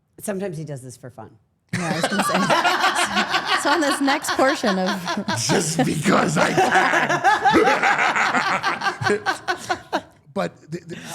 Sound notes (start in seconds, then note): 3.2 all laughing; 8.0 all laughing